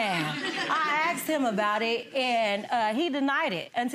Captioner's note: audience laughing